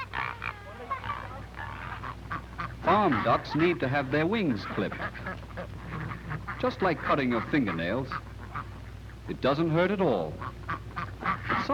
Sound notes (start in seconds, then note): 1.8 ducks honking